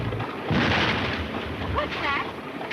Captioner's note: gunfire booms